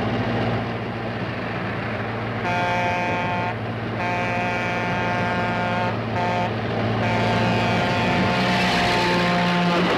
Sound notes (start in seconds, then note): 2.4 train whistle blaring